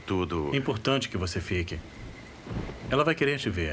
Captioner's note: thunder rumbling